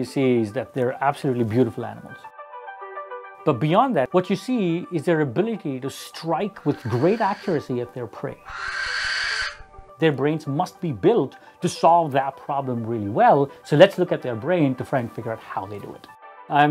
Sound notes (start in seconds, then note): 8.3 owl screeches